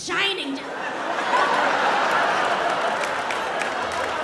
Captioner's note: audience laughs